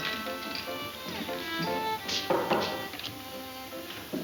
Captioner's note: spurs jingle; knocks